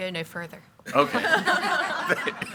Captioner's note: group laughs